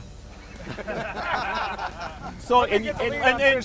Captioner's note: laughing